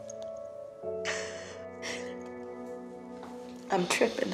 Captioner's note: Beverly cries softly